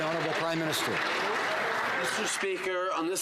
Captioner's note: some Applause